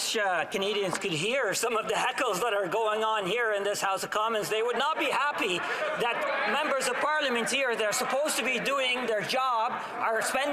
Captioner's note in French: voix de l'interprète